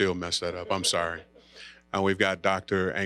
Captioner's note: audience laughing